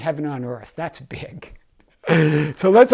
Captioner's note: laughs